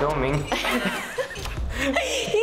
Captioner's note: laughter